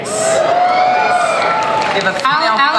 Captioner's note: audience cheers